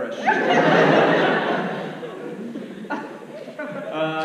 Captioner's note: audience laughs